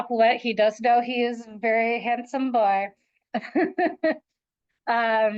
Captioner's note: laughs